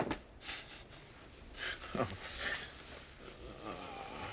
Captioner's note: chuckle